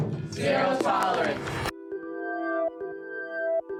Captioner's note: class in unison